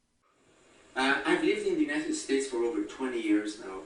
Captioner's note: voiceover